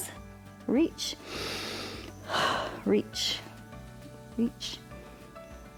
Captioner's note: inhales and exhales